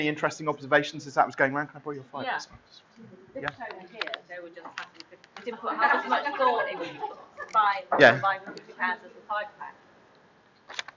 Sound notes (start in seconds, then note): 3.4 chattering